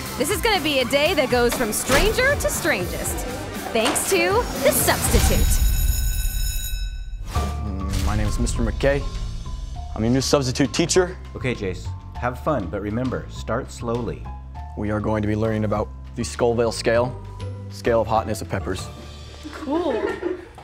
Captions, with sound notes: This is gonna be a day that goes from stranger to strangest. Thanks to The Substitute! [bell ringing] My name is Mr. McKay. I'm your new substitute teacher. OK, Jace, have fun but remember, start slowly. We are going to be learning about the Scoville Scale. The scale of hotness of peppers. Cool!